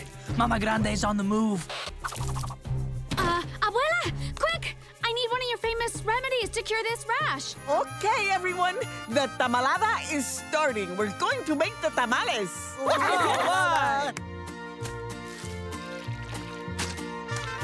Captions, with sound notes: Mama Grande's on the move. Uh, Abuela, quick! I need one of your famous remedies to cure this rash. OK, everyone, the tamalada is starting. We're going to make the tamales. [cheering]